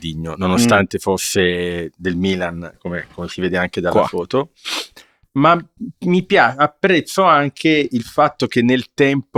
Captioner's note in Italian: sbuffare